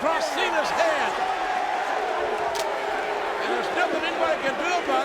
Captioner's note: spectators cheering